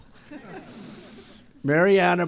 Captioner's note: laughter